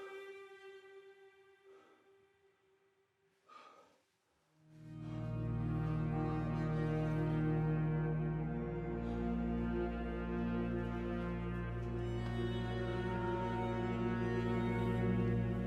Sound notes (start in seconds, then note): 3.4 Van Helsing breathing heavily; 6.8 soft melodic music